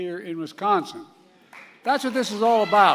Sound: applause

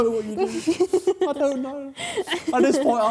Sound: laughing

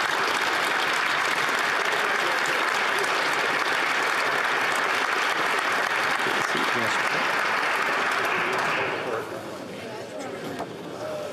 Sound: applause

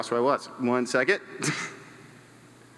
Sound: chuckles

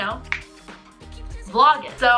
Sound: snaps finger

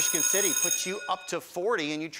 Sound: class bell

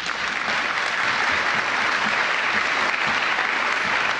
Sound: applause

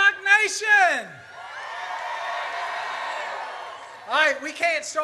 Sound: audience cheers

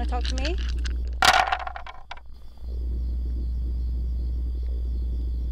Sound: dice thumping

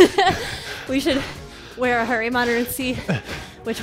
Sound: chuckles

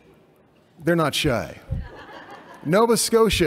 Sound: laughter

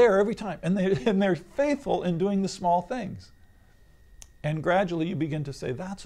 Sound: laughs

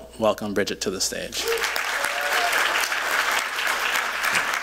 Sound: applause

